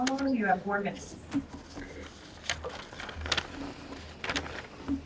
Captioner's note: paper rustles